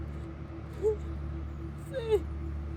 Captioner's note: Cassidy crying